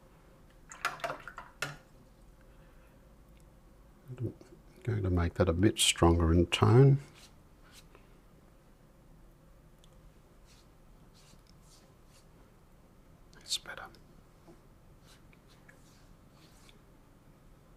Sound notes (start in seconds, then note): 0.1 silence; 7.3 silence; 17.4 silence